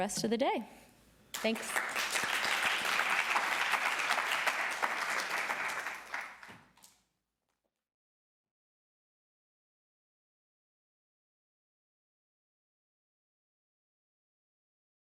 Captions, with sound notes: I thank you everybody again for joining us and enjoy the rest of the day. Thanks. (Applause)